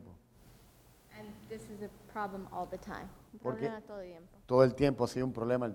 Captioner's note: speaking in Spanish; speaking in Spanish